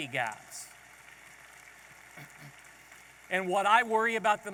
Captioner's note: audience applauding